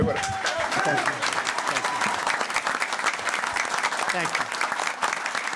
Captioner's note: applause